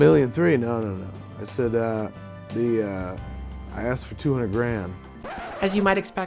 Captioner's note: record scratch